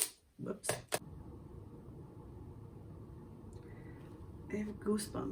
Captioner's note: loud furnace noise